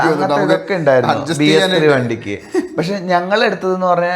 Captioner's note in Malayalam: തൊണ്ട ശരിയാക്കുന്നു